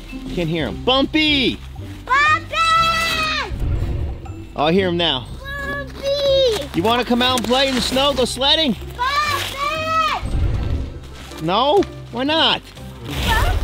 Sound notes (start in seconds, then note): 2.7 yelling; 4.3 animal groaning sound; 10.5 yelling; 12.5 clothes rustle